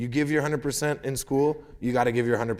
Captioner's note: none